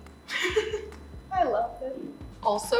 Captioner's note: laughing